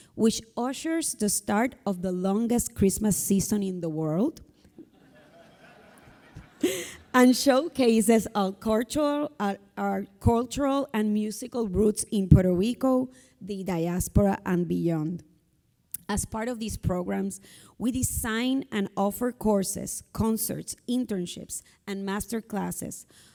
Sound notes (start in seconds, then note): 4.8 audience laughing